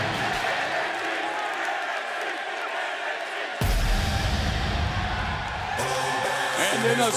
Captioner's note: crowd chattering